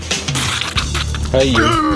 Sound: spitting

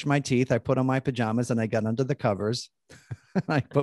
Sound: laughing

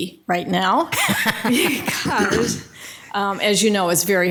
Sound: laughing

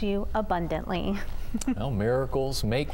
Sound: laughter

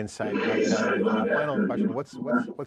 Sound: voice distortion noise drowns out other sounds

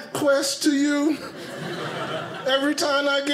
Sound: audience laughing

